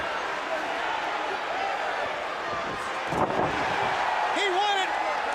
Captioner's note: crowd chatter